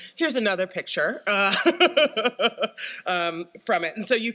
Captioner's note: laughs